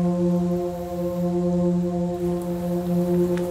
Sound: none

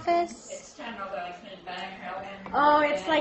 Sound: audience speaking

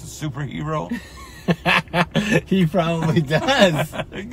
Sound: laughs

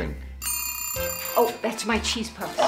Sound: timer ringing

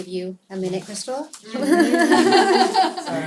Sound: laughter

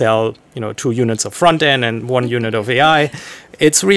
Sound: chuckles

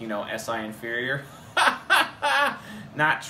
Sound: laughs

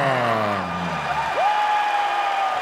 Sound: yelling

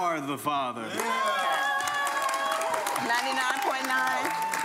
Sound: audience cheering

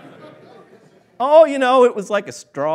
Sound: laughing

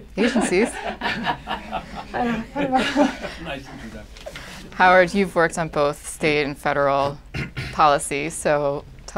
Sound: laughter

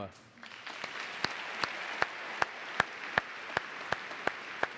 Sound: audience applauding

